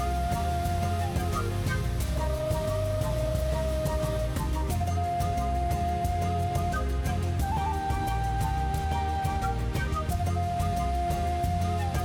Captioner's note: thundering waterfall; cinematic music